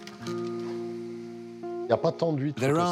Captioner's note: speaking in foreign language